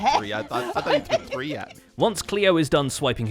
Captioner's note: laughs